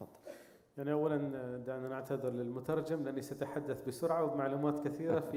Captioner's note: speaking in foreign language